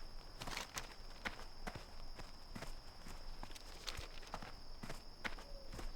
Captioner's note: footsteps